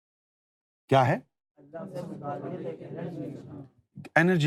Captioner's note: audience repeats